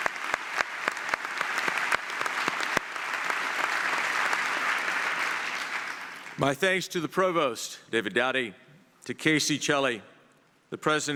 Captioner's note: applause